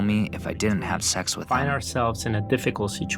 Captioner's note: through translator